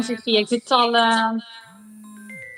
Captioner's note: laughs